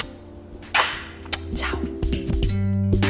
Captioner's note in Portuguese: sussurra